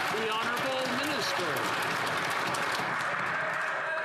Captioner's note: some Applause